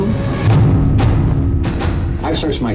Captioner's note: whooshing